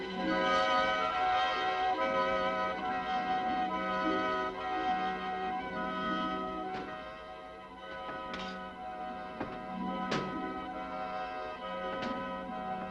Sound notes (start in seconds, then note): 7.7 boards thudding